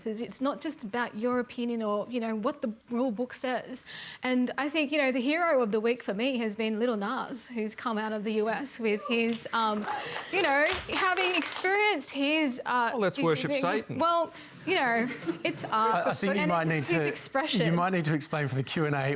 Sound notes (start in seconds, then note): 14.7 applause